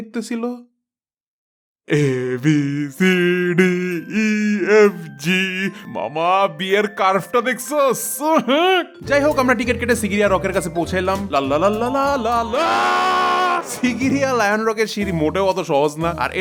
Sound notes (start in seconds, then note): 12.5 screams